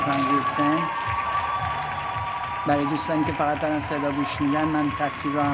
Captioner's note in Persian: صدای تشویق